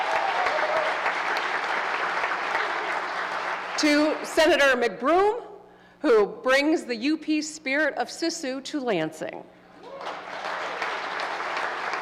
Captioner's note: applause